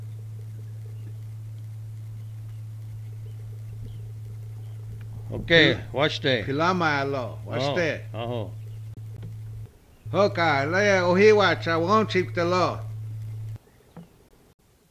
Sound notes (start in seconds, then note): 5.9 speaking foreign language; 7.0 native American speaking foreign language